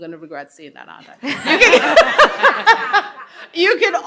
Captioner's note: attendees laughing